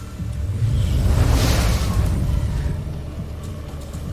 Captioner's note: sparkling whoosh, enchanting chimes